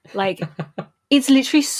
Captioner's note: laughs